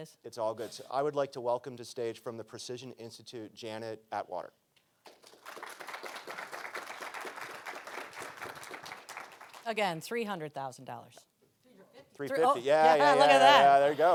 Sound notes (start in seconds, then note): 5.0 audience applauding